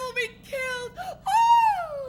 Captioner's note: screams